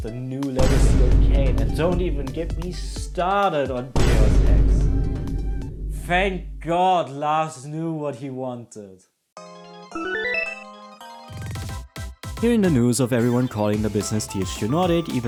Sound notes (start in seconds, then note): 0.6 Vine boom sound; 3.9 Vine boom sound; 9.4 high Score Jingle